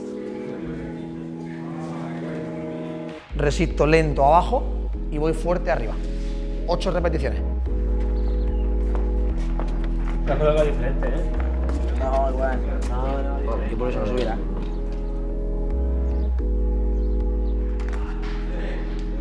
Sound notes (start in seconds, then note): 0.0 background chattering; 3.7 speaking Spanish; 10.1 players chattering